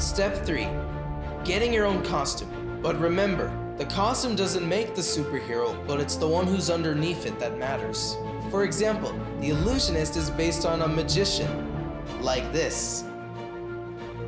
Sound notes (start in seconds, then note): none